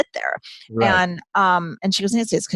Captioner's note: laughs